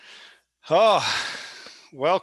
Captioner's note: sigh